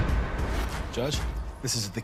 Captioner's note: whooshing; upbeat music